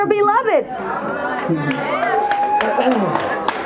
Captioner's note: audience cheers